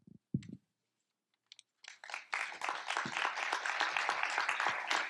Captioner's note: applause